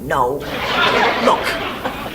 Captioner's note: audience laughs